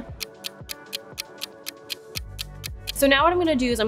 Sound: clock ticking

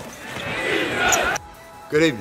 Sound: crowd cheers

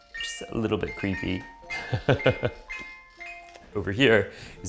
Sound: laughs

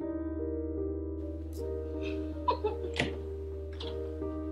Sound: Fiona laughing

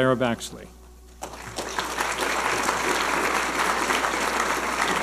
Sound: audience applauding

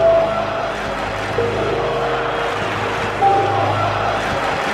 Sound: fans chanting

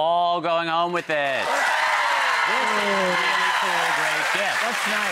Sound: audience cheers

